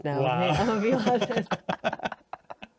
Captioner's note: laughing